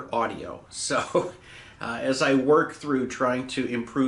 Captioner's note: chuckles